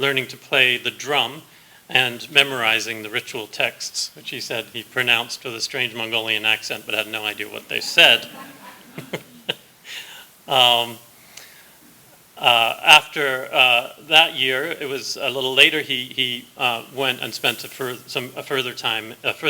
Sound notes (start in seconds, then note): 7.8 laughter; 9.1 laughs